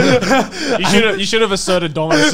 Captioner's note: laughing